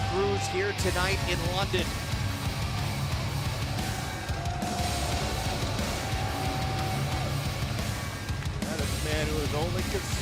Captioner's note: crowd cheering